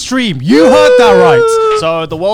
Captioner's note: jubilating